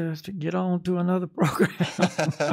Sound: laughs

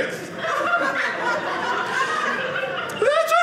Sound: audience laughing

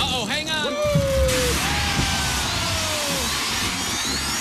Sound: farting noise; alarm sounding

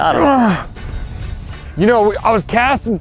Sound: grunting

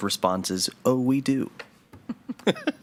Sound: laughs

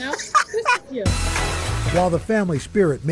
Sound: laughter

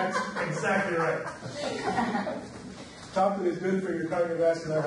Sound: audience laughs

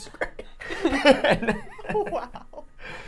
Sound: all laughing

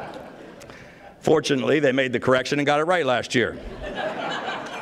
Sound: laughter

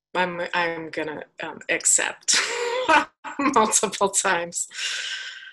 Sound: laughs

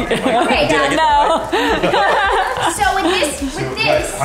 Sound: laughs

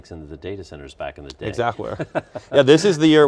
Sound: laughs

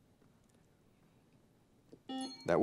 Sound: buzzer beeps

